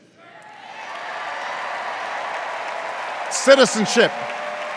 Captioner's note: cheers and applause